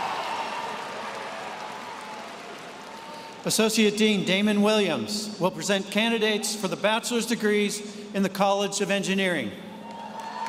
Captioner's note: cheers